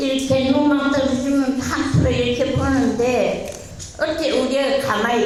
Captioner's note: speaking in foreign language